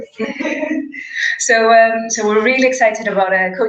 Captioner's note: laugh